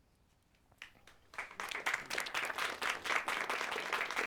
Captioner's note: audience applauds